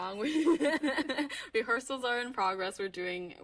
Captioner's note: laughing